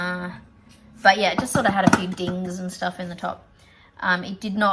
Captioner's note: hammers on lid